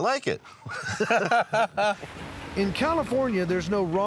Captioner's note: laughter